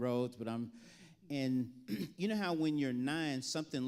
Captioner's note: clears throat